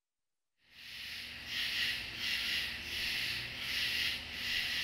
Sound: insects chittering

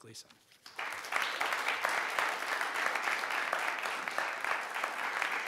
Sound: audience applauding

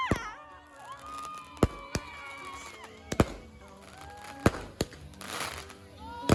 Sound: shouting

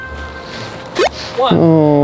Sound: jump squeaks

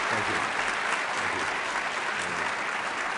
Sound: applause

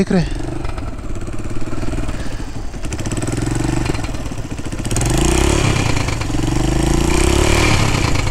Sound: sound of engine revving

